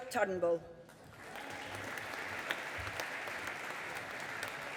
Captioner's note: audience applauding